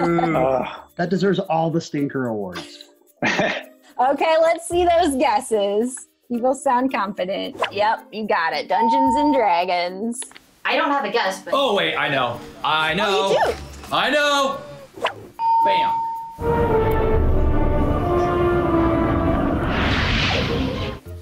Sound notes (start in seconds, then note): 3.2 laughs; 8.8 bell rings; 15.4 bell rings; 16.0 tense music